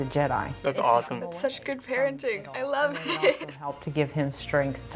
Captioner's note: laughing